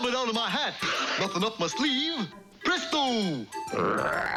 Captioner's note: screams